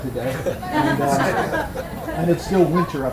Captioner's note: audience laughs